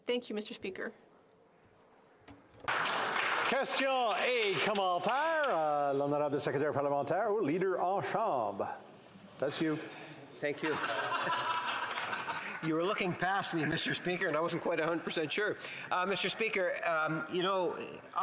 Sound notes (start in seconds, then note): 11.8 speaking French